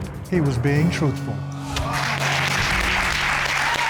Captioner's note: applause